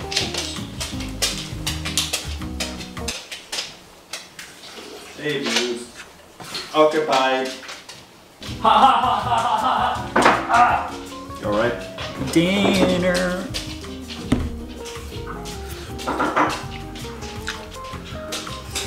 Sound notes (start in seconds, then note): 0.0 footsteps plodding; 10.3 bangs; 16.0 banging